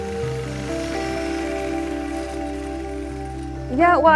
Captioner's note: yard equipment whirring